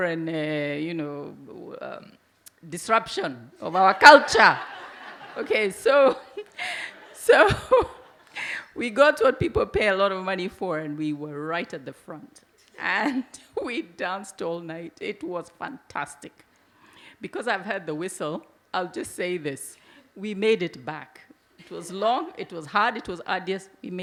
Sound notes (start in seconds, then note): 3.8 laughs; 3.8 audience laugh